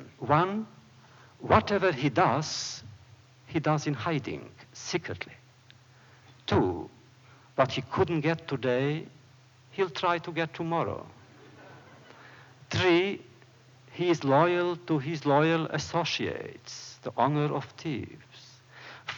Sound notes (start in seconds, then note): 11.2 laughter